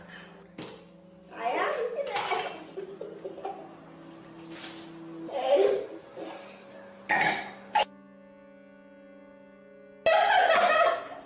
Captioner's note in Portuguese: som de vômito